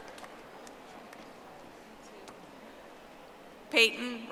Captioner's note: audience applauding